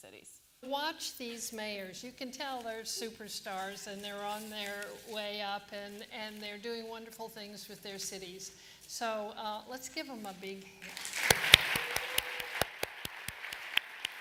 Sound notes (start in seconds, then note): 10.8 applause